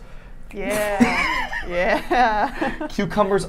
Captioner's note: laughing